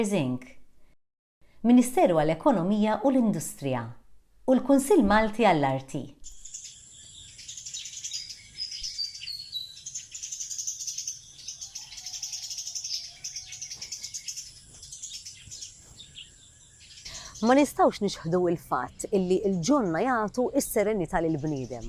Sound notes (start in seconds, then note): 7.8 birds chirping